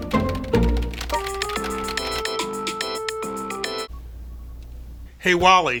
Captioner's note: ringtone jingling